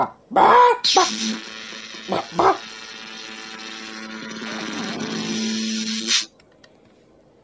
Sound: electricity

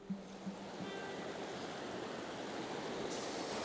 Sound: water splashing

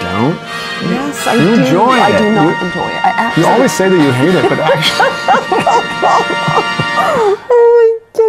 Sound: laughter!

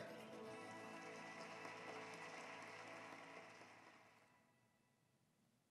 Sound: applause

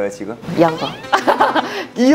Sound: ah hahaha

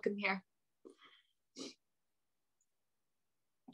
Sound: silence

